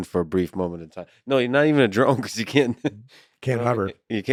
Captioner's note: laughing